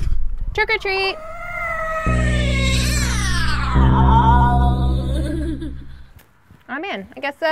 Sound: spooky noises

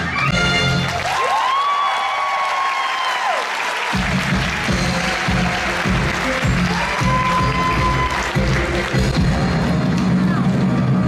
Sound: audience applauds

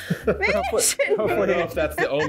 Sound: mumbling

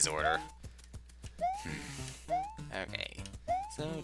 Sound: sigh

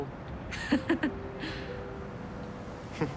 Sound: laughing

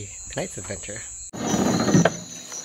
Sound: sound of motor

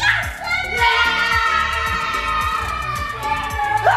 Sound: screaming

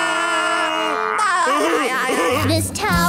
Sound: laughing

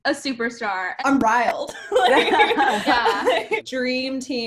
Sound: laughs

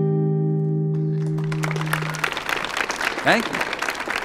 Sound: audience applauding

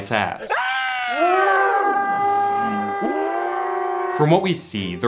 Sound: screaming

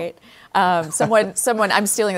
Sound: laughs

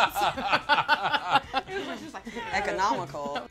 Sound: all laughing

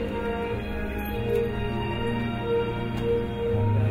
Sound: none

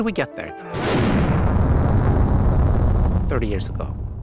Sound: rocket whooshing

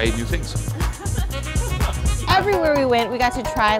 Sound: laughter

